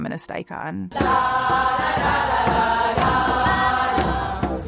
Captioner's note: crowd chanting